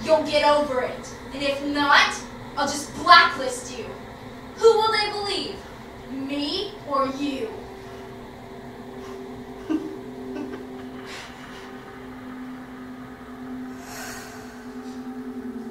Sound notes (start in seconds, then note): 7.8 eerie music; 10.2 giggles sinisterly; 11.8 eerie music